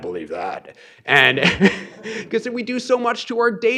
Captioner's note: laughs